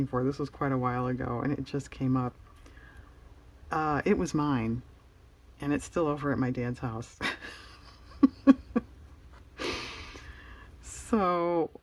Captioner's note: laughs